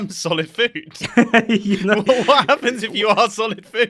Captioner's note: laughs